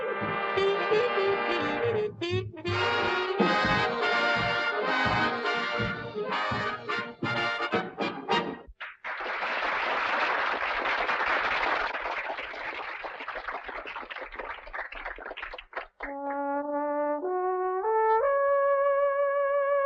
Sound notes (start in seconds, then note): 3.3 dramatic music; 8.8 audience applauding; 17.1 mellow jazzy music